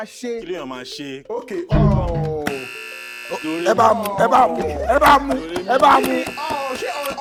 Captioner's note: buzzer pressed